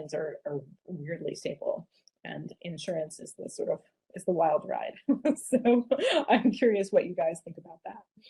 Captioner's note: laughter